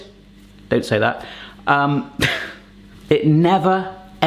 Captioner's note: laughs